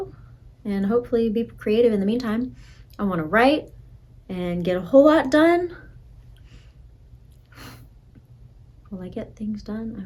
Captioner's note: breathes